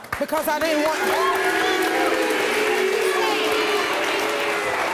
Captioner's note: audience shouting